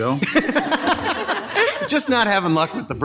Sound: members laughing

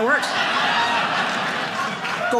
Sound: audience laughing

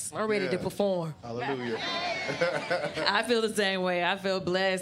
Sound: laughs

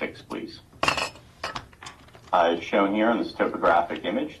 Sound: glass clinks

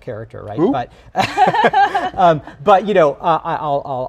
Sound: laugh

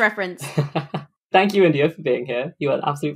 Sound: laughs

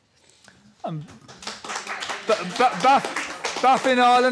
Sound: applause

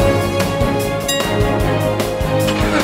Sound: bell dinging

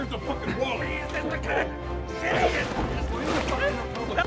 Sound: constant fighting and arguing in alley

